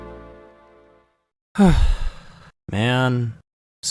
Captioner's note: sighs